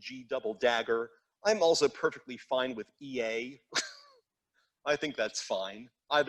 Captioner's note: laughs